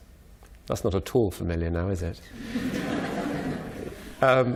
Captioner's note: subdued laughter